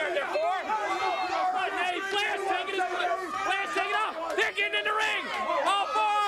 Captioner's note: crowd chatter